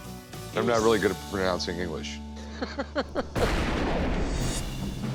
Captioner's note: chuckles